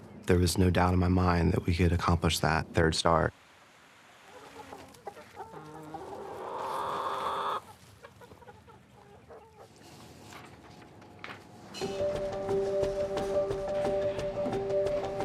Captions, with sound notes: There was no doubt in my mind that we could accomplish that third star. (chickens clucking) (enthusiastic music)